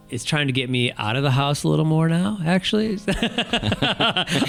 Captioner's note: laughs